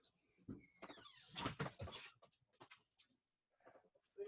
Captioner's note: door opens